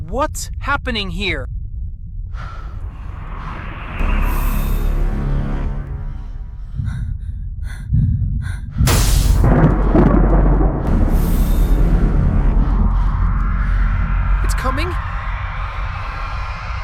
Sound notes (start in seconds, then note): 2.4 suffocating fear music; 8.9 thunder and storm raging; 15.8 suffocating fear music